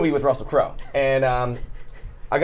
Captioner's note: Saf laughs